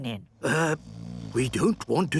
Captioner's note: people snoring